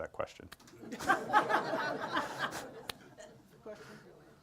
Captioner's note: group laughs